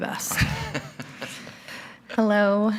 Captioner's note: board members laughing